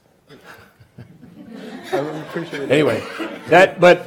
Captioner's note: laughing